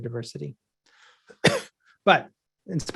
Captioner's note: coughing